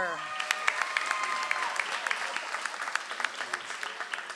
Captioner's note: audience applauds